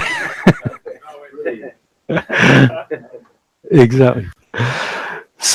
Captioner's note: laughs loudly